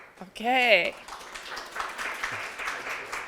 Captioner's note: applause